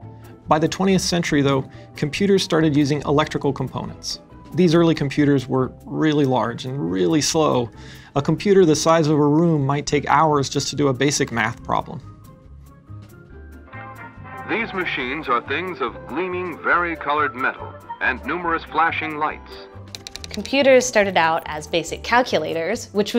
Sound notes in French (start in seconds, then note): 0.0 musique rythmique de piano; 12.3 musique rythmique de piano; 14.0 voix du diffuseur de télévision; 19.9 sons de machine à écrire